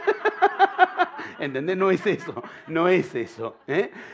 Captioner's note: laughter